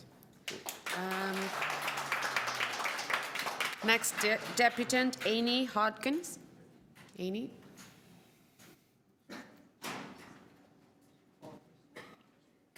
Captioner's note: applause